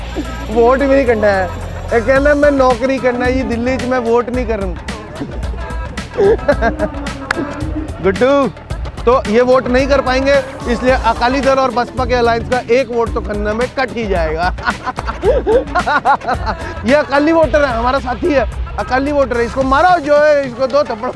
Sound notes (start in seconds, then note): 14.4 evil Laugh